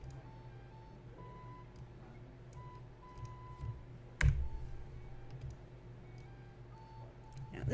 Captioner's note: more clicking